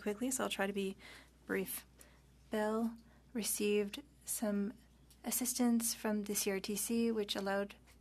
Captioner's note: speaking French